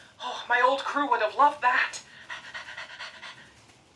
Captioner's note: pant